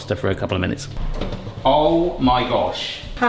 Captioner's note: tray clattering